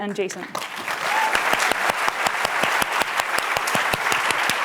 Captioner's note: applause